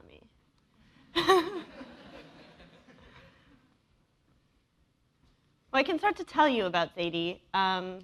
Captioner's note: laugh